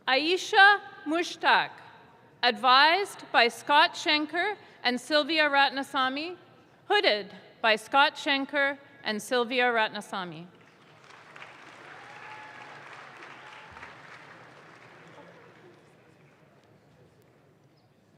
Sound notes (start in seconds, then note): 10.6 audience claps